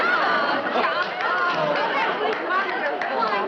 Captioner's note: everyone Talking